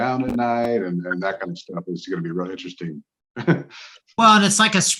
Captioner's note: laughs